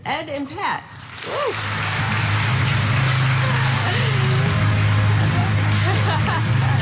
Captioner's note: audience applauding; upbeat music